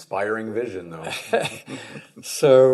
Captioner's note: chuckle